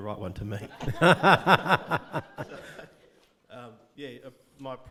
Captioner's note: audience laughing